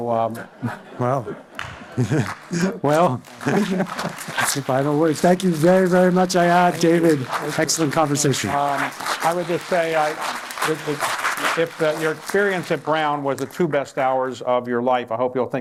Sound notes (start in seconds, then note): 3.6 applause